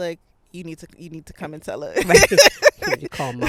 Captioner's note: laughing